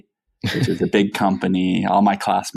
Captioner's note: laughs